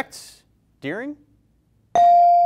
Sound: bell rings

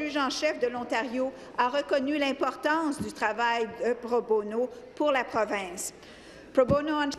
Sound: speaking french

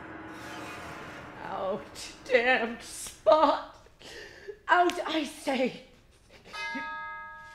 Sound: bell tolls

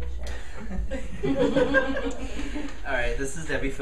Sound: audience laughing

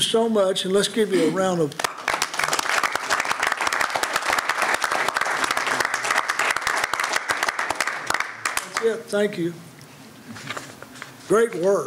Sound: applause

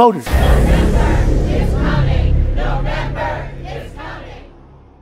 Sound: chanting: "November is coming!"

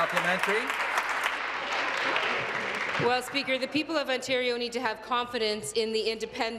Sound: applause

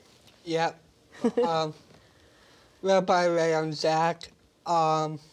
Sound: laughter

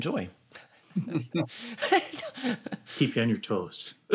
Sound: laughter

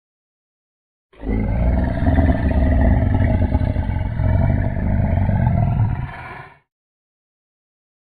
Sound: sound of growl

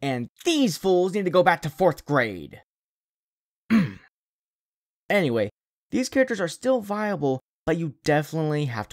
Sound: ahem

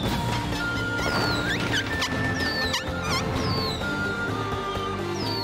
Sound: bunnies Squeaking

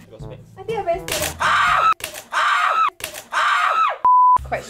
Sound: screams!!

